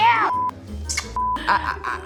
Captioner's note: laughs; kissing lips